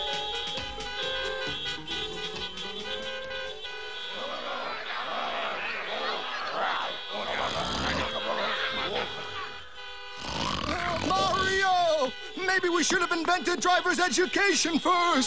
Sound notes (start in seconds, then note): 0.1 horns honking; 4.1 snoring; 4.2 people shouting in background